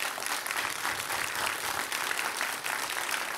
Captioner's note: applause